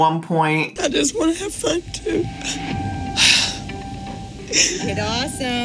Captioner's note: heavy sigh